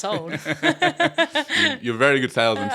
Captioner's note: laughing